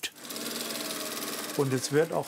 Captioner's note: sewing machine whirring